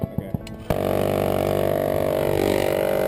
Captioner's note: minigun fire